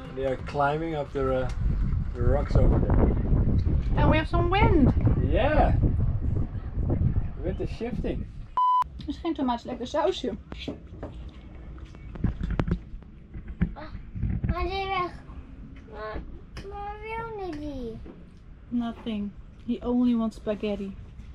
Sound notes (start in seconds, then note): 2.8 wind rustling; 13.8 babbling